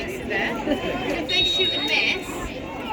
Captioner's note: whistle blows